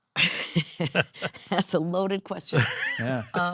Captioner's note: laughs